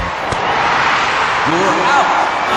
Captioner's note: cheering